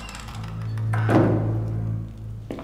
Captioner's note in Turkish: Kapı kapanma sesi